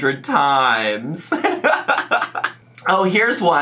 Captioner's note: laughs